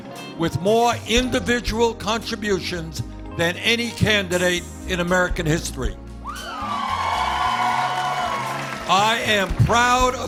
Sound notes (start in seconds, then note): 6.2 cheers and applause